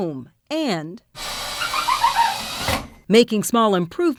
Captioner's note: drill whirling